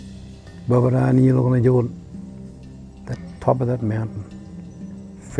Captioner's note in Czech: Mluví starověkým githabulským jazykem